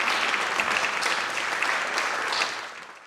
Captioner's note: audience applauding